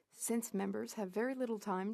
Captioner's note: speaking French